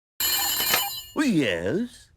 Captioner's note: phone rings